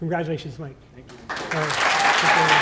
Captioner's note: applause